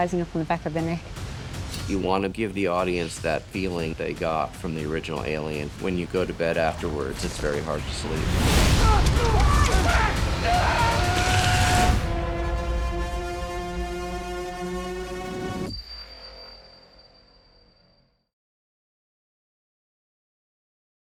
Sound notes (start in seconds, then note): 8.6 dramatic music; 10.1 yelling